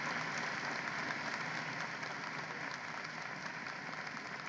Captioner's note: applause